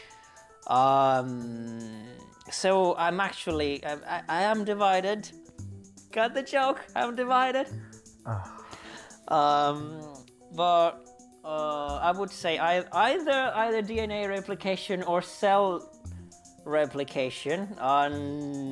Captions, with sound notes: So, I actually am divided. Got the joke, I'm divided. [exhausted sigh] I would say either DNA replication or cell replication.